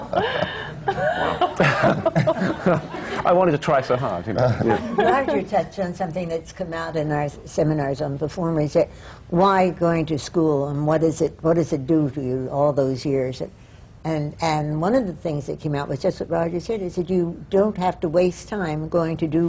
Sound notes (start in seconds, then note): 0.0 laughter